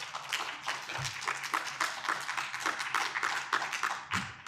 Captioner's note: audience applauding